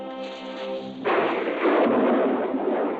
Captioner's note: thunder rumbling